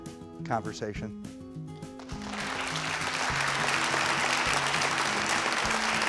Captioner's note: gentle music; applause